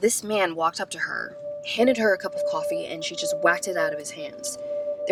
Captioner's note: none